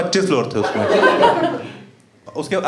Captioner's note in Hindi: हँसना